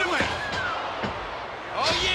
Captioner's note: crowd gasps